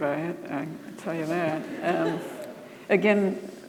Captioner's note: audience laughing